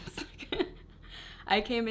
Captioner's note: laughs